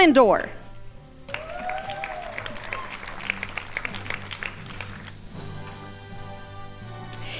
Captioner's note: crowd applauding